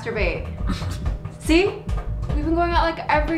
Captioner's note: Donald chuckles